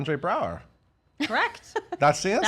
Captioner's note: laughing